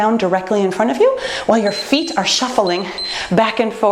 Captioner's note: timer beeps